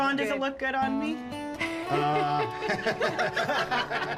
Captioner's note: laughing